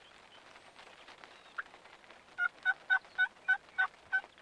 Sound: turkey calls

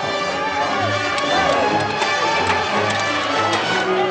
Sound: people shouting

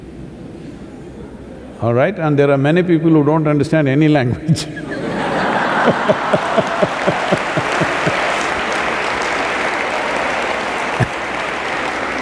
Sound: laughter/Applause

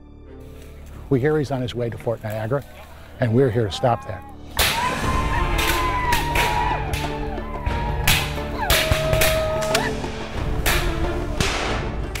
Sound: fighting sounds

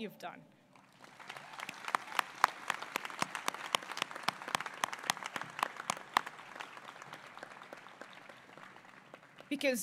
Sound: applause

